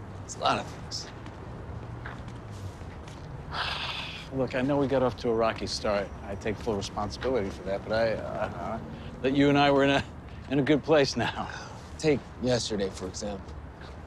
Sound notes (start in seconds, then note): 3.4 sighs